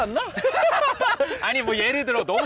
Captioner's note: the two bursts laughing